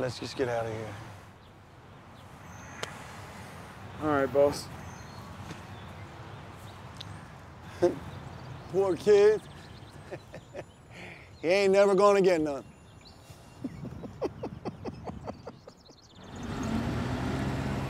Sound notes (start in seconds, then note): 13.6 laughing